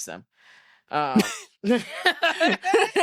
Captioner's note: both laughing